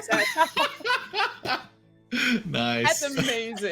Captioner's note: all laughing